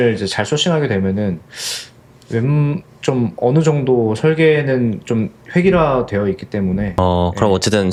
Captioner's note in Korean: 콧방귀